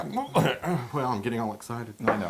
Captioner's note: cough